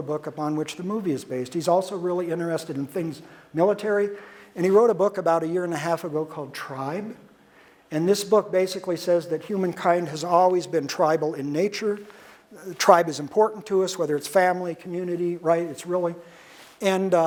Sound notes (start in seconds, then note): none